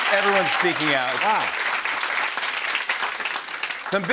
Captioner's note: applause